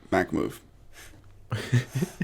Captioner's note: laughter